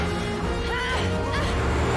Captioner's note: grunts